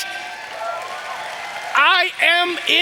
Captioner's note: audience applauding